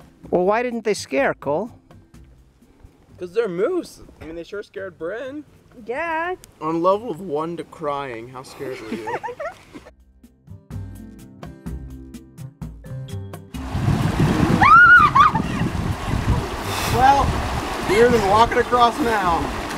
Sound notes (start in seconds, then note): 8.6 laughter; 14.4 screams